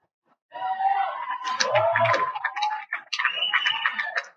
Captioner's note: cheers and Applause